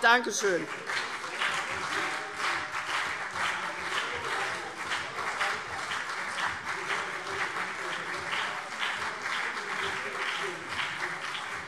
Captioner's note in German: Beifall CDU und BÜNDNIS 90/DIE GRÜNEN - Zurufe